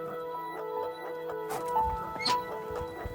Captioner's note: squealing